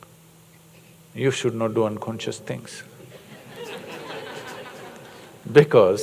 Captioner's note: laughter